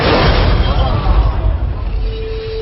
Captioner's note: crowd exclaiming in shock